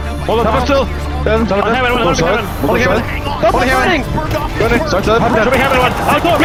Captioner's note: group indistinctly chattering